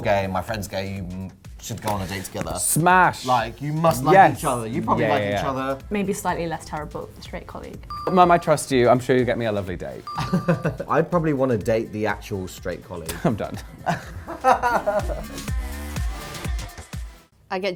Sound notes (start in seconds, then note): 10.1 laughs; 13.1 laughs; 14.9 upbeat music